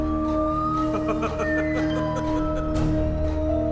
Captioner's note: suara tertawa